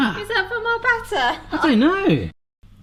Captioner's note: laughs